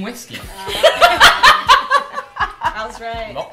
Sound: laughter

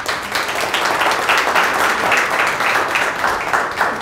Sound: applause

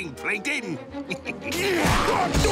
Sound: chuckles

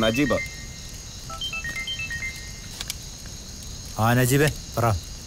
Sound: phone Ringing

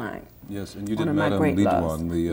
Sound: both murmuring

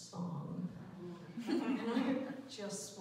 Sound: laughter

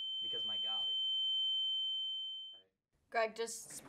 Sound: high pitched ringing, voice is drowned out

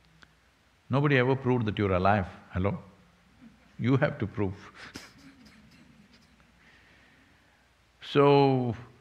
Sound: laughs

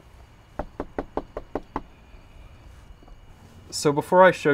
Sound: door knocking

